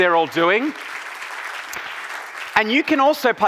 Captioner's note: audience applauding